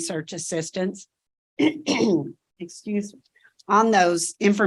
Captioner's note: clears throat